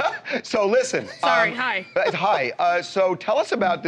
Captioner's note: laughter